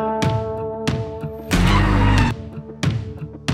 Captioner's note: tire squeal